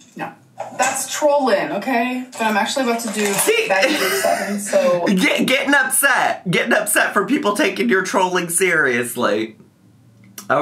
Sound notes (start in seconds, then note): 3.6 laughs